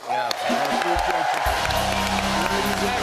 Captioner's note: cheers and applause